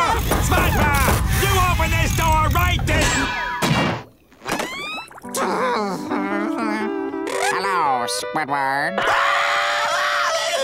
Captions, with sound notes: SpongeBob! You open this door right this-- [groaning] Hello, Squidward! [screaming]